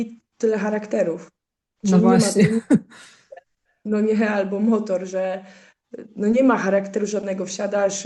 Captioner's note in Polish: śmiech